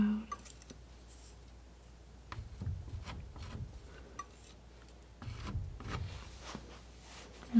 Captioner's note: scratching